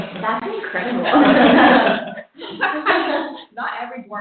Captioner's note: laughter